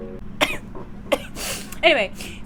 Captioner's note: sneezing